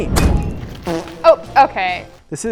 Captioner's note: loud farting